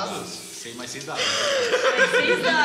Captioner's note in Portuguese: risada